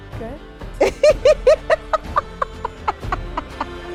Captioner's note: laughs